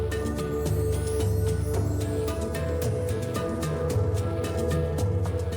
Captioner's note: magical dust tinkling; upbeat drumming music continues